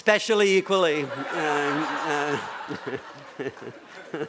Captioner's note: laughter